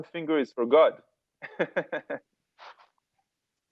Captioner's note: laugh